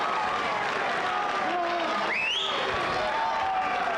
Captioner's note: audience cheering